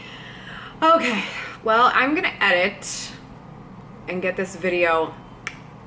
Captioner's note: click